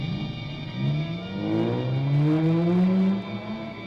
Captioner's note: engine revving